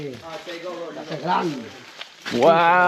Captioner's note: speaking in foreign language